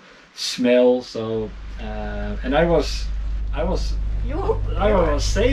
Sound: chuckles

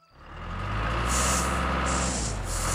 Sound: engine Running

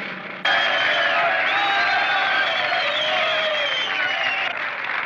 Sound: cheering

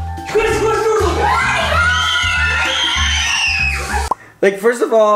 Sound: screaming

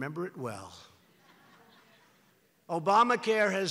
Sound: laughter

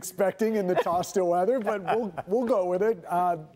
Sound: laughter

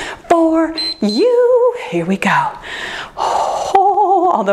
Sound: timer beeps

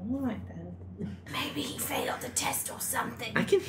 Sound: loud whisper

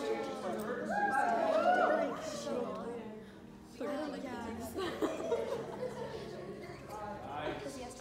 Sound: background talking

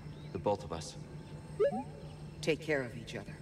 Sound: beep-boop

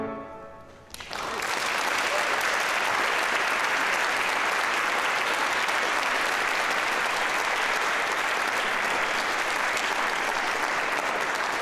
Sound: applause

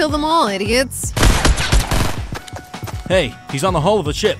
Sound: gun firing

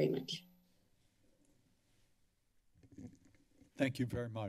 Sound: silence

